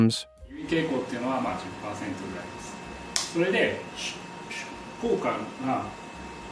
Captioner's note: professor speaking in foreign language